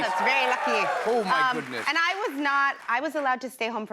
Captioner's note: Irish accent; normal voice